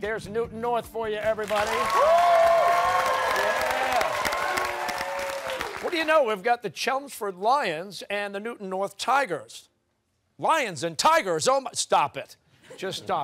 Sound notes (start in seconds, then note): 1.4 cheers and applause